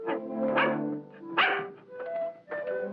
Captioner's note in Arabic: نباح الكلب